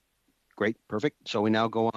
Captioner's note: speaking French